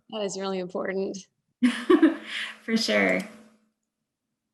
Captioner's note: laughs